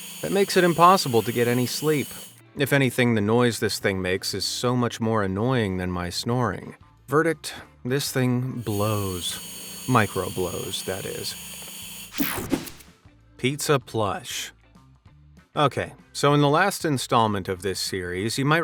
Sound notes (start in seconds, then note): 11.7 whooshing sound